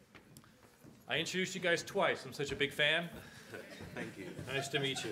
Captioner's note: audience laughs